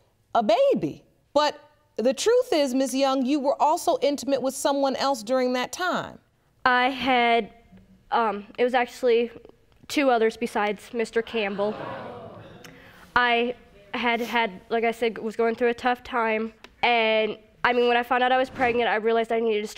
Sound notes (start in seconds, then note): 11.5 audience gasping